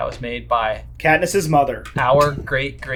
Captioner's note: laughs